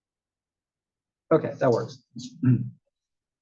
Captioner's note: cough